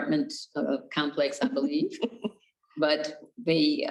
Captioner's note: laughs